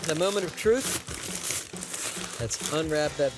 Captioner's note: paper rustling